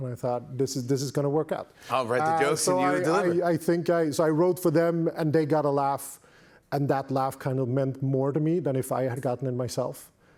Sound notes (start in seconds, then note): none